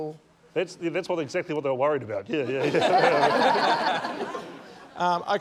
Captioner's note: laughter